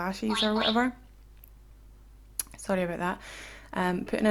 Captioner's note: phone beeps